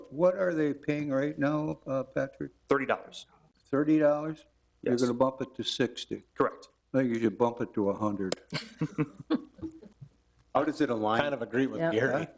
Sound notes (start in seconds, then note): 8.4 chuckling